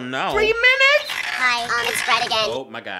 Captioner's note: devilish high pitched nostalgic voice